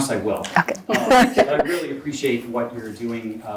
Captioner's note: chuckles